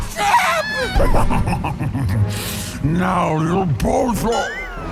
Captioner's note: laughing maniacally with her mouth full